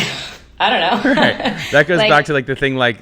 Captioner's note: laughing